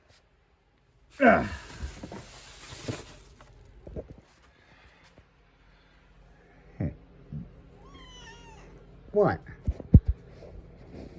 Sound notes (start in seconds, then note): 1.2 grunts and groans; 7.8 meows